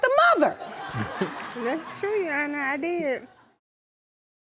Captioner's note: audience laughing